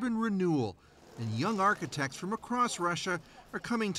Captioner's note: speaking russian